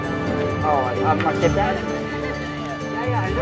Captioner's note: outside chatter